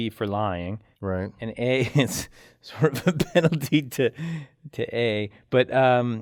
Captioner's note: laugh